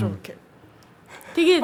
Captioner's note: hesitant